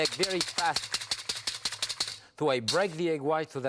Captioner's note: whisk clattering